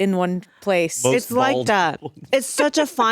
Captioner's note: laughs